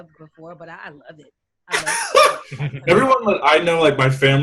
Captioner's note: laughter drowns out